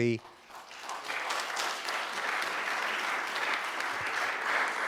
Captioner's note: audience applause